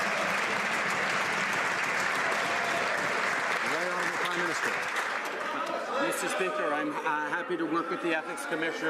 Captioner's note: some Applause